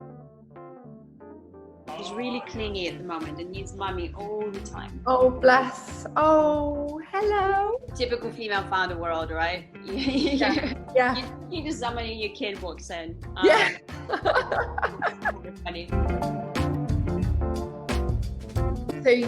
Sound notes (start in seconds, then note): 0.2 upbeat music; 10.0 laughs; 13.4 laughs; 15.7 upbeat music